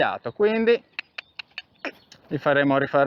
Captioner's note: cluck